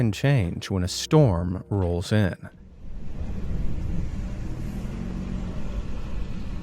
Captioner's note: strong roll of water